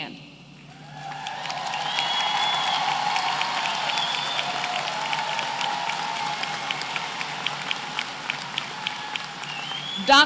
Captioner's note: applause